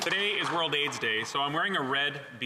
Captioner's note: some Applause